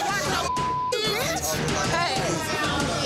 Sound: dramatic music; beep

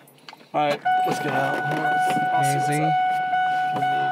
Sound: warning bell ringing

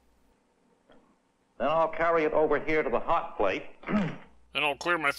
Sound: clears throat

